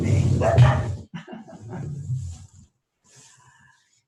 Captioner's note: laughing